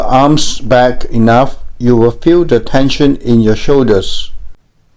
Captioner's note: voiceover